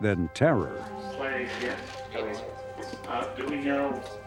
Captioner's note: murmurs